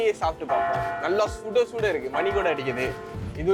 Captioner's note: bell chimes